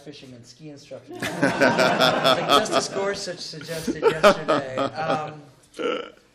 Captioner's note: laughter